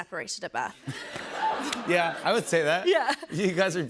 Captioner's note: laughter